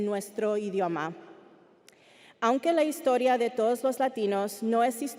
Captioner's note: speaking Spanish continues